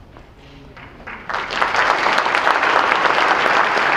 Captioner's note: clapping